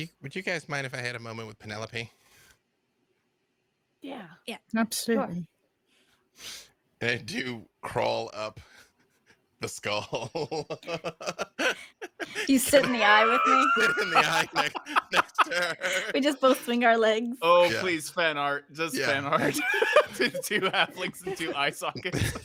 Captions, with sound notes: - Would you guys mind if I had a moment with Penelope? - Yeah. - Absolutely. - I do crawl up the skull. (laughs) - You sit in the eye with me. - I sit in the eye next to her. - We just both swing our legs. - Oh, please fan art. Just fan art. Two halflings in two eye sockets.